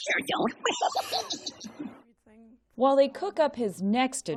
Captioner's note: laughter